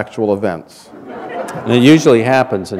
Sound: laughter

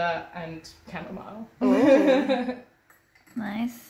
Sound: laughs

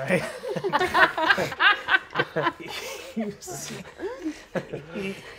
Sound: players laughing

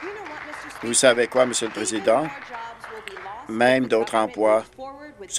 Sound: applause

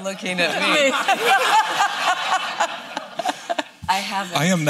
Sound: laughter

